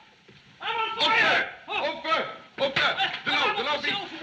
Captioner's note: mass panic